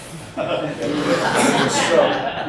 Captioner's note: audience laughs